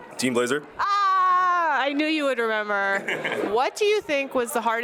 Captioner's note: laughs